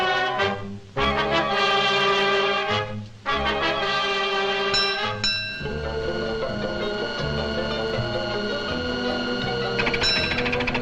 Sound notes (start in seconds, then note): 4.7 bell clangs